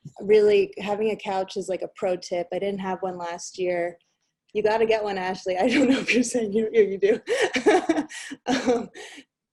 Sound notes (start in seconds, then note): 8.4 laughs